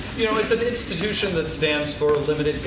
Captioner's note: laughing